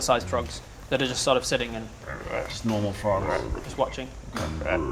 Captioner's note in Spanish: ribbit